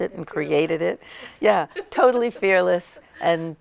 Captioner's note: laughter